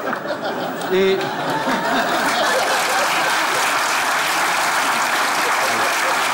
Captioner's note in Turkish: Kahkaha ve alkış sesleri